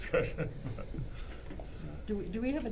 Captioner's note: laughing